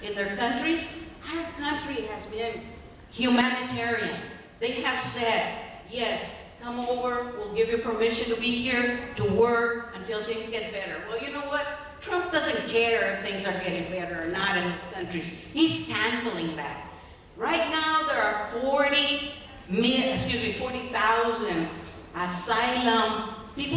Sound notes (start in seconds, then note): none